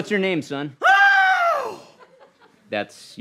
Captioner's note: screams